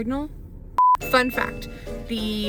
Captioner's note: beep